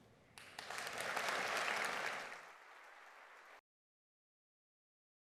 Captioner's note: audience applauding